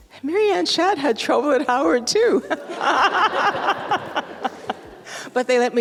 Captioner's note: audience laugh